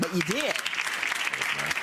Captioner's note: audience applauds